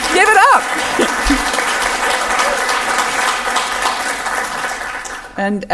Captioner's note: audience applause can be heard